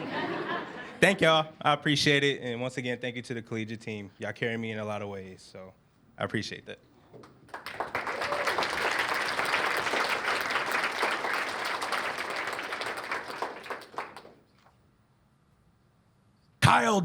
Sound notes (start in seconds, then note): 0.0 laughter; 7.5 cheers and applause